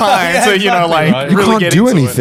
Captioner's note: laughing